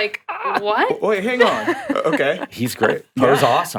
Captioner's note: chuckling